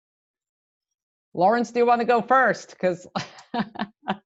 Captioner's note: laughs